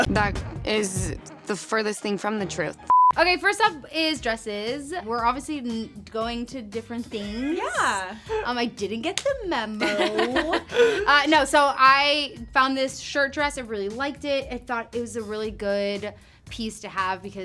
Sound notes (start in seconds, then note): 9.8 two laughing